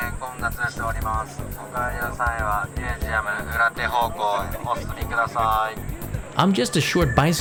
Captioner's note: man speaking Japanese